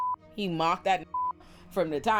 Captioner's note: beep